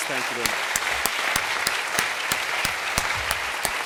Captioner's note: applause